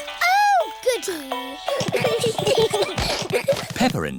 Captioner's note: all giggling